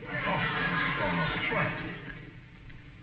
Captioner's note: audience laughing